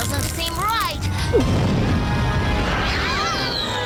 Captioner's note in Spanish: explosión